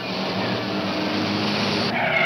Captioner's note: tires screeching